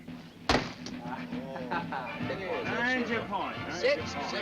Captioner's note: chattering